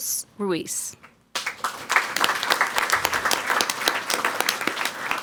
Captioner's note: people clapping